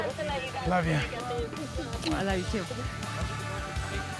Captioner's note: smooch